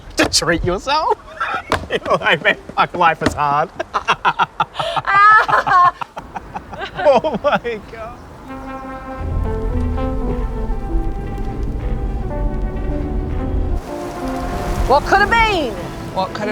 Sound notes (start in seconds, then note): 3.6 laughing